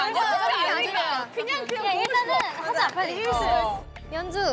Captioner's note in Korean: 짝짝짝